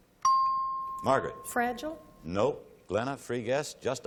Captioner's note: ping